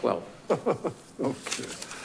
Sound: laughing

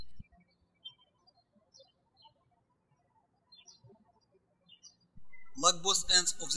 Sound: birds chirping

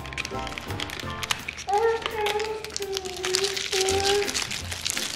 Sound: tape crinkles

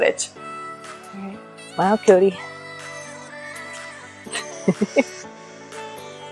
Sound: laughter

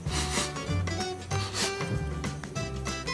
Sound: sniffing

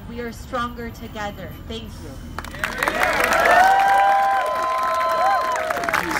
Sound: cheering

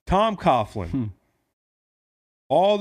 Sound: laughs

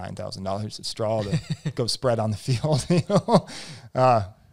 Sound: laughs

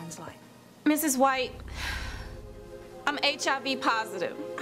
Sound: sighs

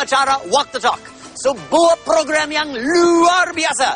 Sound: non-english speech

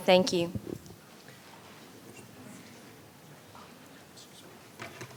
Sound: speaking faintly

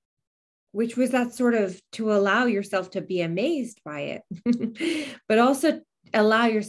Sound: chuckles

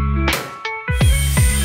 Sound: drill hums; relaxed music; nail thuds; drill hums

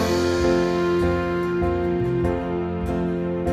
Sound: none

